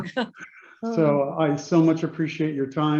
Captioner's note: Doug and Indra laughing